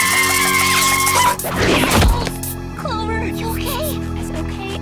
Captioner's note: screaming